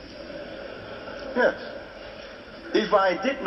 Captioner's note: laughter